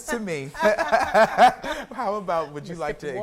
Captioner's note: loud laughter